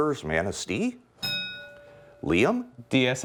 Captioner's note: ding